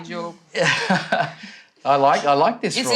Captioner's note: laughs